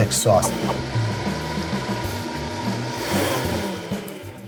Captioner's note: blender whirring